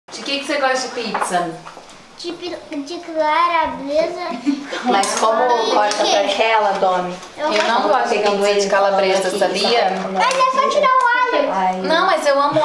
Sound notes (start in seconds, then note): 4.2 laughs; 5.8 indistinct chatter